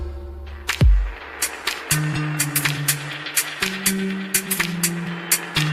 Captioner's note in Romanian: Aplauze